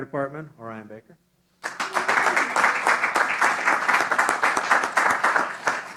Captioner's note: applause